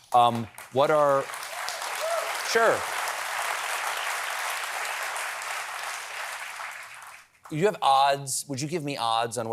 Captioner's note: applause